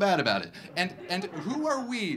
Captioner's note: audience laughing